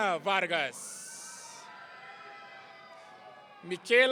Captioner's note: audience cheering